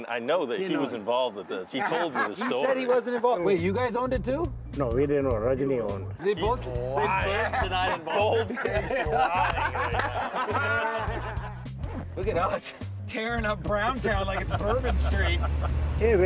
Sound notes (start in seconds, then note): 9.9 they laugh